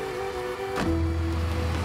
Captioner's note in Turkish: Kapı Kapanma Sesi